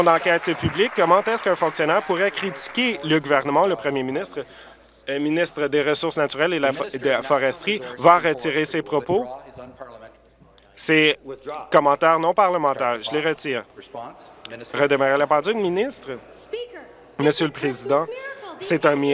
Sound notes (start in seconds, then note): 2.5 applause